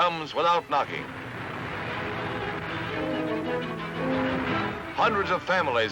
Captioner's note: music, water rushing